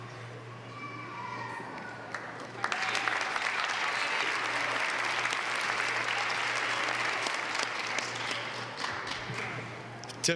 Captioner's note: applause